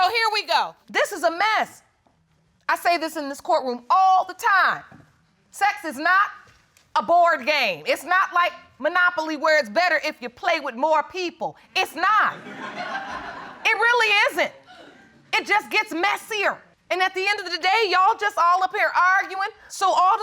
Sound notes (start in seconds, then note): 12.3 audience laughing